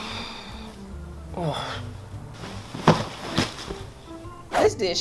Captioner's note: groaning